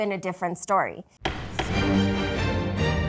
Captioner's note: dramatic music plays; gavel thuds